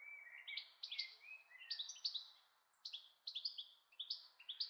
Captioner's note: birds chirping